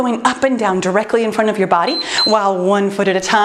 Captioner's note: timer beeps